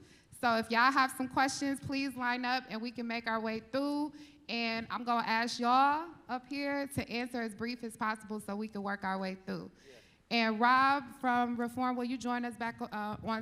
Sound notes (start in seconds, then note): none